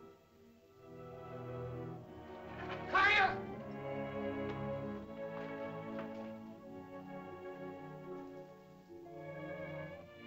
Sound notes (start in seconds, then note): 0.0 ominous music; 2.8 Tumak shouts; 5.3 soft music